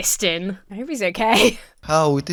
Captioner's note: laughs